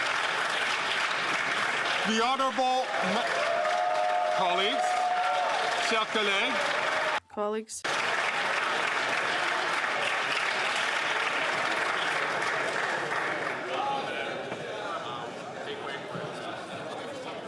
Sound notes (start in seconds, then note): 9.3 speaking French